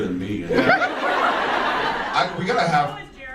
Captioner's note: audience laughs